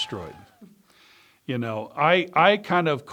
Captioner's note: crowd cheering